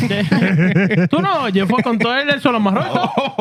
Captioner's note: laughing; speaking In Foreign Language